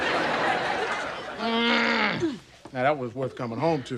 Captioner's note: grunting